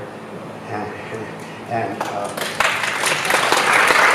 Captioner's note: applause